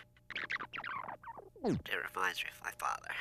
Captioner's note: playing in fast rewind